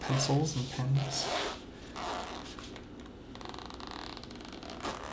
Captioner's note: zipper opening